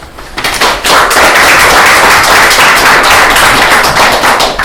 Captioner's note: applause